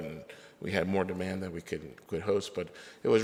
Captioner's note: none